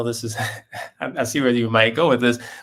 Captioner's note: laugh